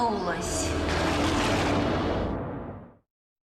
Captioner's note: thunder crashes